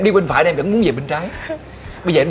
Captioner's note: laugh